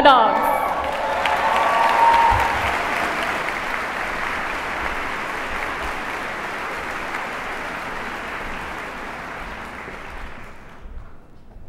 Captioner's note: applause